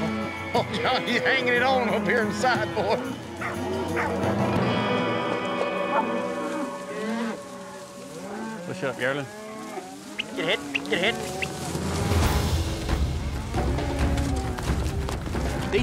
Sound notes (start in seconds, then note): 4.7 mooing; 11.2 whistling